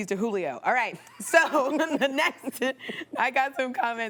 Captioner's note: laughing